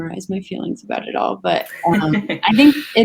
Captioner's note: laughs